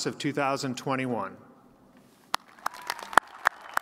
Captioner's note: cheers and applause